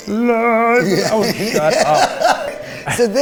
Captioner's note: laughs